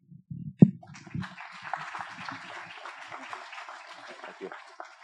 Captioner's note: applause